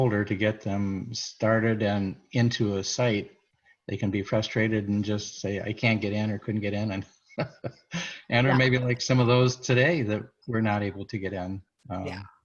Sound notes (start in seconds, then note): 7.4 laughs